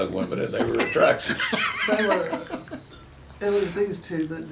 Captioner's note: chuckles